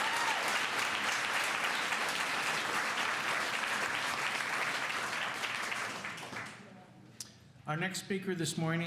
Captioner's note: cheers and applause